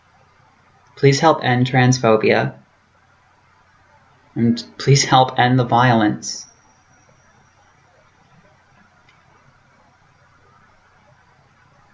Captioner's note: pause